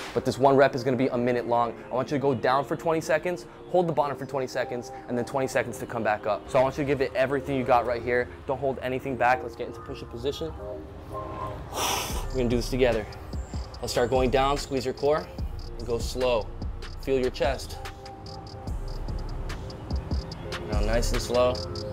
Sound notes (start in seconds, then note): 11.4 exhales